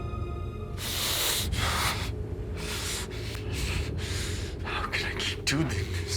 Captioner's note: tense music; Tommy breathing heavily